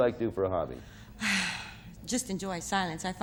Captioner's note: sighs